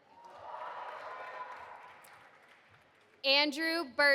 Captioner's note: audience applauding